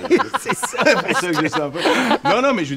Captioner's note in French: rires